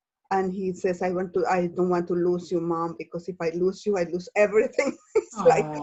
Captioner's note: laughs